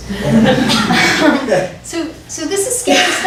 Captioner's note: audience laughs